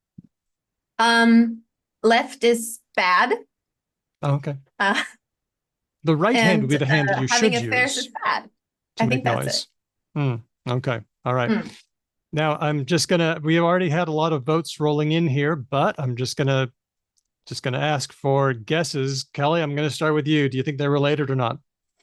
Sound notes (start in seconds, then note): none